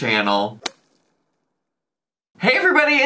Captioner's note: logo thuds